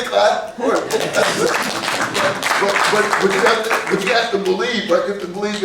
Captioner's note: clapping